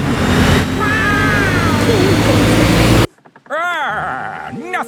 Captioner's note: laughing